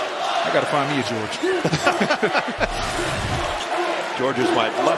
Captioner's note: laughing